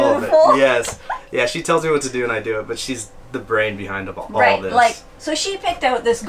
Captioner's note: chuckling